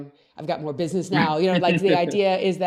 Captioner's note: laughs